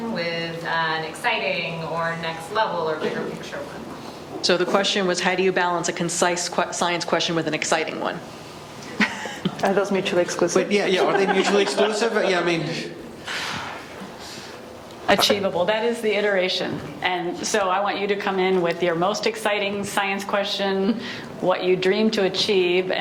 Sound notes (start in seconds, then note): 8.9 laughs; 13.2 sighs heavily